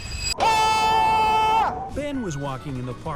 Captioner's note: screams